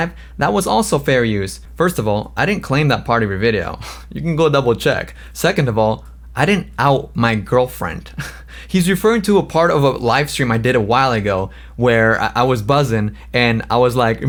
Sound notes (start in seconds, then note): 8.1 laughs